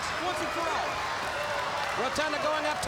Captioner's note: crowd chatter